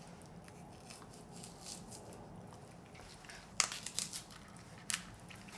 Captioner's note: rustling movement